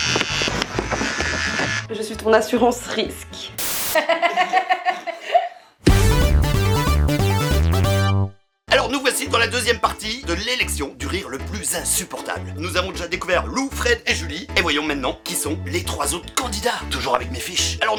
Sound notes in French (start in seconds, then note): 3.9 rires